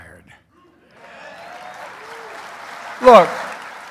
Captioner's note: applause